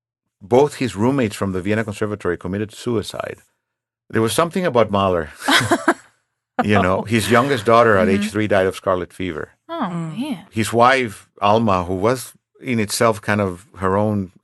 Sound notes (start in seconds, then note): 6.6 laughing